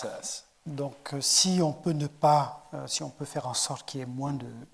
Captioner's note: speaking in French